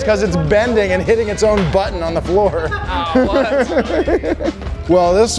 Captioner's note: laughing